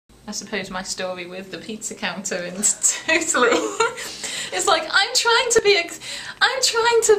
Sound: laughs

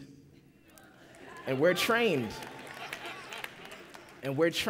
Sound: applause

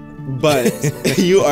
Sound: laughs

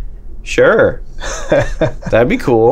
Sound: laughter

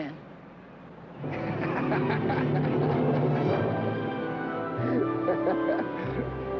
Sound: romantic classical music; Roy laughing

